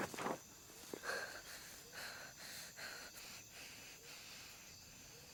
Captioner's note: backpack falls; fast breathing